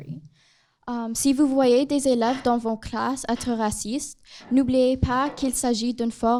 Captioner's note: speaks in foreign language